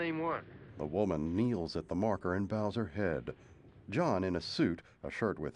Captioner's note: thunder rumbling in distance